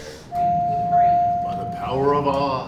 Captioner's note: elevator dings